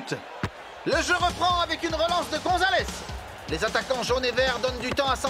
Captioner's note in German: beifall